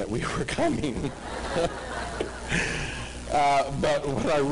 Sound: laughter

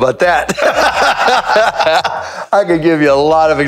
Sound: both laugh

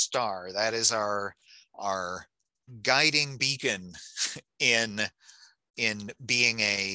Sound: chuckles

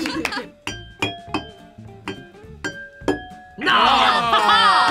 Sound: glasses chiming; laughs

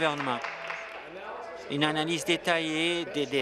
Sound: applause

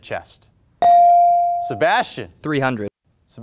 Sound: buzzer pings

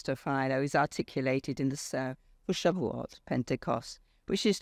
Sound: speaks foreign language

